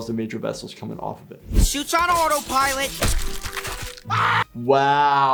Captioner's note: machinery clunking; man yells